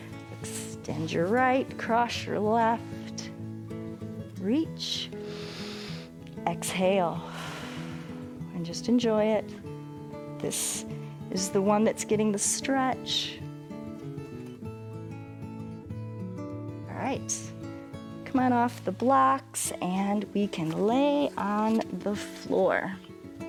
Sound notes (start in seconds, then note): 5.2 inhales; 7.2 exhales